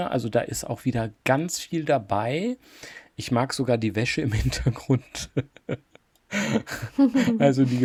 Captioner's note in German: gelächter